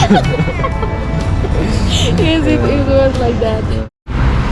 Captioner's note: laughing to death